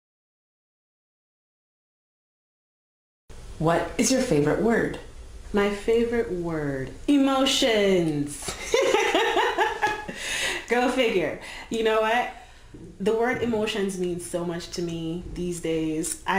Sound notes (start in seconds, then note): 8.5 laughing